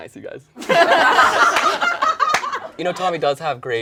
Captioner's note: all laugh